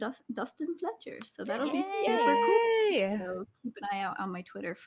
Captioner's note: group cheers